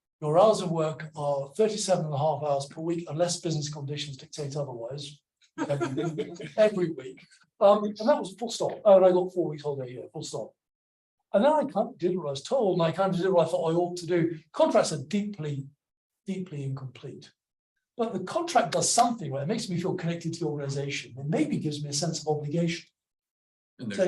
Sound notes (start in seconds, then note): 5.6 audience laughs